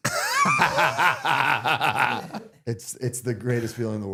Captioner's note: both laughing